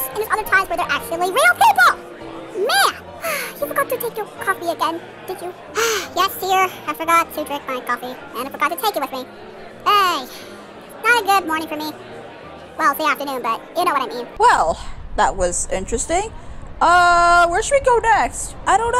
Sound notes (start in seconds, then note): 5.7 sighs